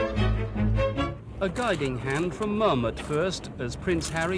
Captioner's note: engergetic music; voiceover